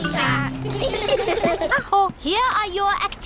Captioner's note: all giggle